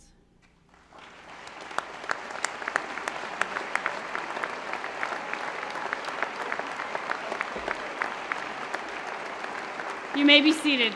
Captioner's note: applause